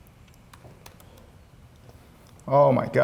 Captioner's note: keyboard clicking